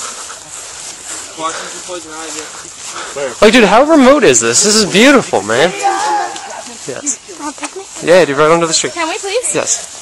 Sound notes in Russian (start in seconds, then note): 4.6 лютый орет